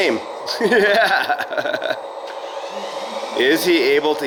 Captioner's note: laughs